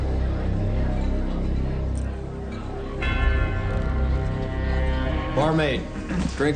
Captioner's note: suspenseful music continues; chattering